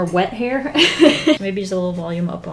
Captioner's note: laughs